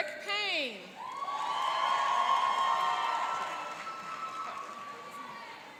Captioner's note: cheering and applauding